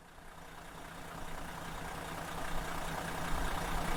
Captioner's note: coach engine purring